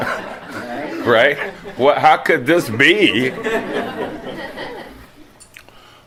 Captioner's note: laughter